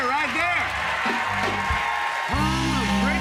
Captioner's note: cheers and applause